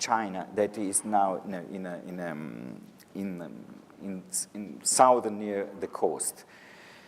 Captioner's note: stammers